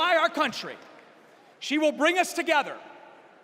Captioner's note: cheers and applause